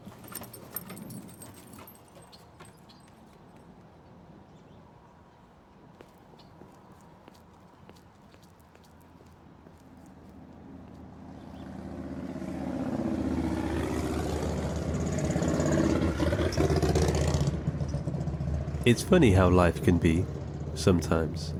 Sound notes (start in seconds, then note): 0.0 dog tags jingling; 5.8 footfalls clacking; 9.1 motorcycle engine roaring